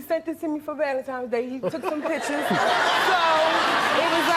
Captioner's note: audience laughing